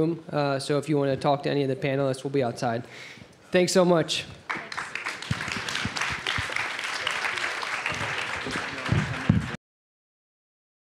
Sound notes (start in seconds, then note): 4.4 applause